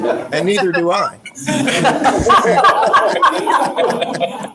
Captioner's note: group laughing